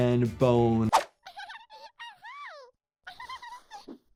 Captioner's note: Giggles laughs